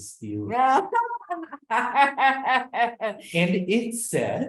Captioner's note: laughs